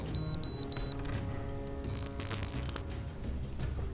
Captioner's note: detector beeps